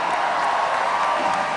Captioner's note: cheers and applause